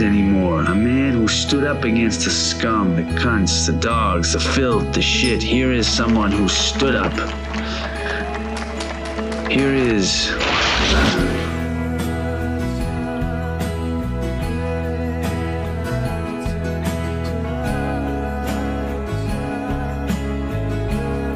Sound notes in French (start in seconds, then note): 8.1 applaudissement